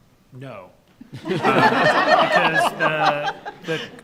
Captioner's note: group laughs